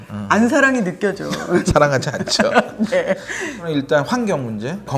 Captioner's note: hahahahahaha